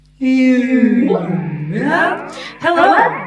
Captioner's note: powerpuff cartoon character impression